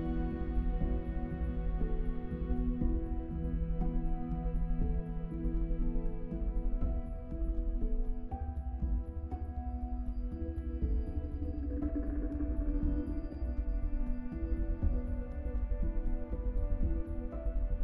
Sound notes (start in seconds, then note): none